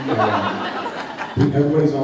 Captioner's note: laughs